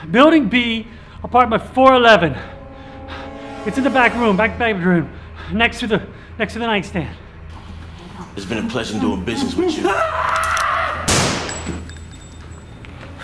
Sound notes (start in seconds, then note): 2.2 Alexandre hyperventilating; 8.2 dramatic music